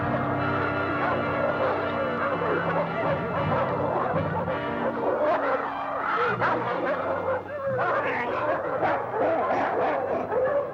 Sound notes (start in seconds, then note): 0.1 intense music; 6.3 dogs barking